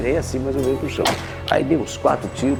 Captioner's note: shot